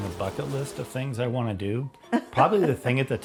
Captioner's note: laughing